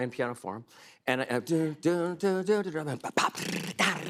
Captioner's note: imitating jazz piano and drums